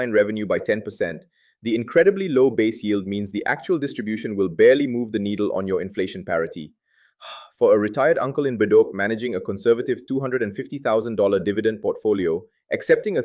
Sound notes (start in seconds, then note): 7.2 sighs